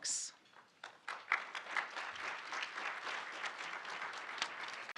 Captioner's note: audience applauding